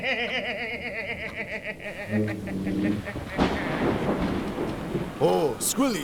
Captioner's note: wheeze